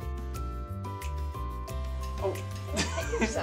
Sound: laughs

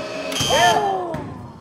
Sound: dramatic music; buzzer buzzing; ball bouncing

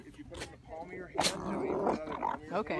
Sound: angry alpaca noises

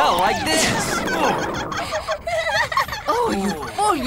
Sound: laughter

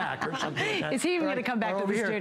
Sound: laughter

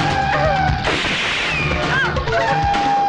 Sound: gunshot

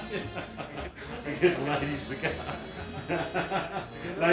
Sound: laughter

